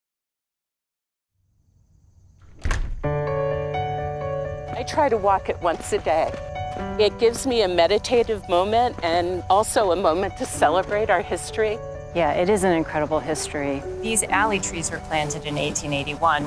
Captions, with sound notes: (door opening) (piano music) - I try to walk it once a day. It gives me a meditative moment and also a moment to celebrate our history. - Yeah, it is an incredible history. These alley trees were planted in 1881